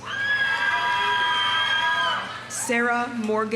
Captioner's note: audience cheering; audience applauding